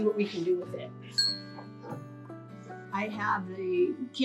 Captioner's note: bell dings